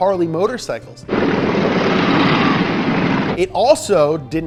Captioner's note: engine rumbling